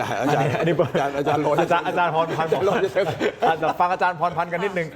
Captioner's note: laughter